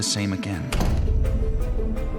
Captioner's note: door closes